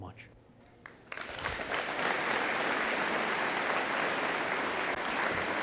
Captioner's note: audience applauding